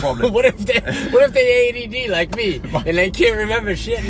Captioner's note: laughs